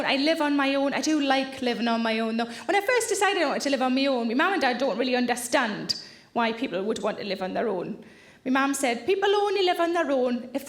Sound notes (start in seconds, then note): none